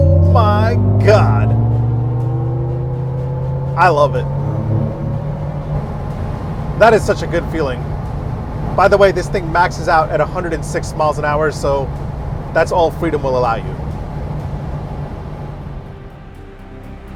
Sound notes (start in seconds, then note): 0.0 car motor revving; 4.5 car motor revving; 14.2 dramatic music